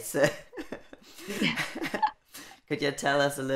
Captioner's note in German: Beide Frauen lachen